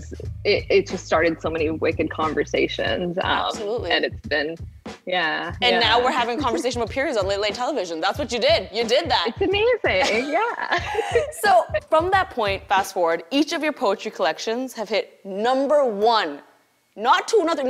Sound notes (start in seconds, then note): 10.0 both laugh